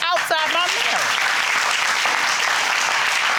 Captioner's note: audience applauding